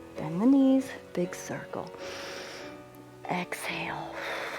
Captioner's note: exhales; inhales